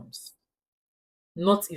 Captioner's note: paause